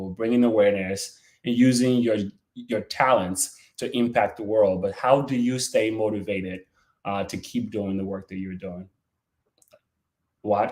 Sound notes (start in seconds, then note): none